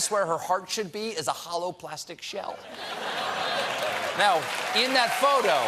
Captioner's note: applause; laughter